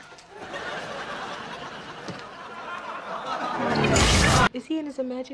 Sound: laugh track

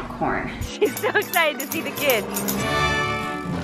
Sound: laughing

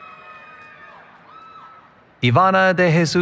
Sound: cheering

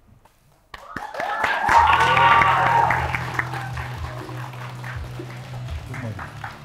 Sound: applause

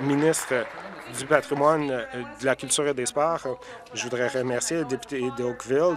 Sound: applause

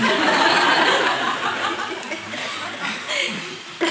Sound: audience laughs

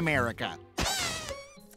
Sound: deflating

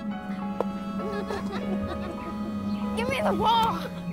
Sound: laughing in distance

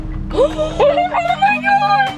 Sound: gasps

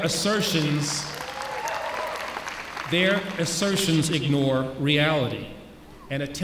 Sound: applause

